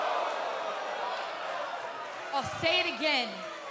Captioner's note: jeers & cheers